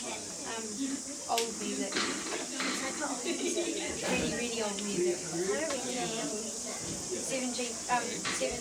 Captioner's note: chatting